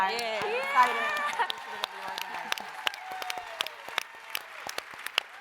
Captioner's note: applause, cheering